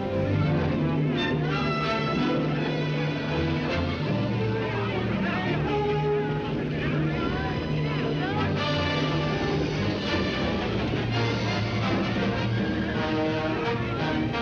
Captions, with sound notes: (dramatic music) (people shouting) - Everything all right? - Yeah! (dramatic music)